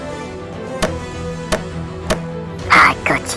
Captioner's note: hit, hit, hit